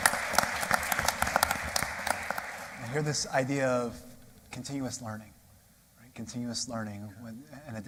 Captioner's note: applause